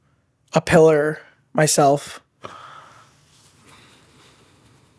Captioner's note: sigh